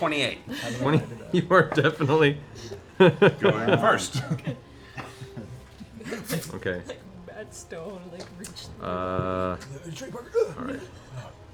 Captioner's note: laughs